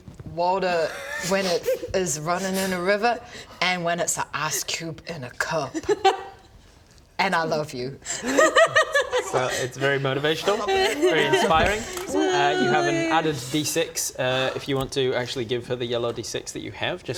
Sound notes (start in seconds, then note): 8.1 jealous laughter